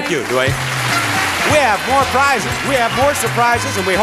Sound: audience applauds; theme music plays

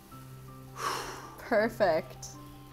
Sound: exhales

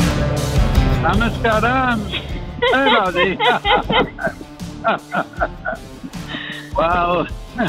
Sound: laughter

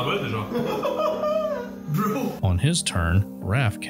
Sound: panic sounds

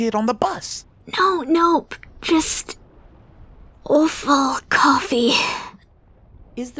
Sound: whisper

